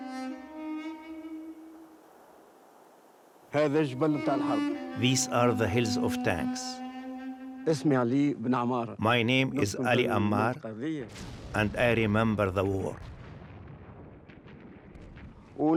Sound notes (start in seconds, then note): 3.7 speaking in foreign language